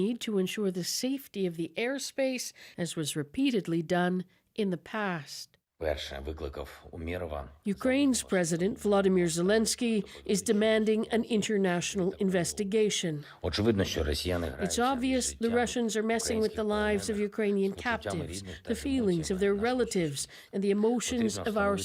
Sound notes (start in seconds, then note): 8.0 speaking alternate language; 15.6 speaking alternate language